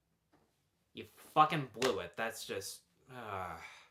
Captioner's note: sighs